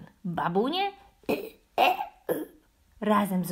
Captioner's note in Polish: kasłanie